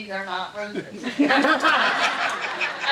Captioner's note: audience laughing